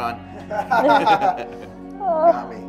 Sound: laughing

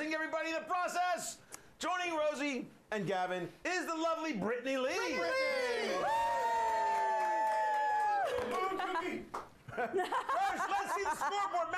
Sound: audience cheering

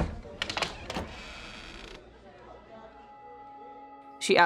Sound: door creaking

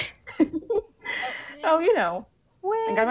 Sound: laughs

